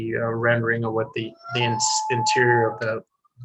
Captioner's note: wolf howls